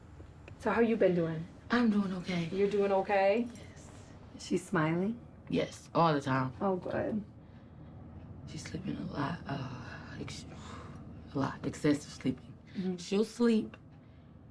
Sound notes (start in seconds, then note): 10.5 exhales